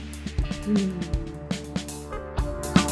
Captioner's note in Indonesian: hmmm